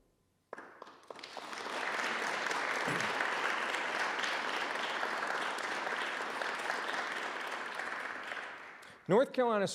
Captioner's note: applause